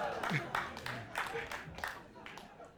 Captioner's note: audience clapping